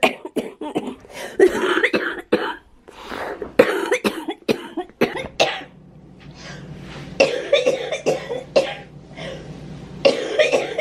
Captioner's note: coughing